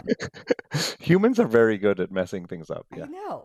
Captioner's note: laughs